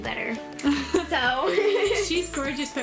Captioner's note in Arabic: يضحك